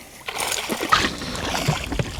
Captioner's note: splash